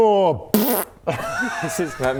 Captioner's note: pbfft